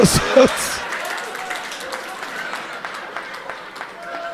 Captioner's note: audience laughing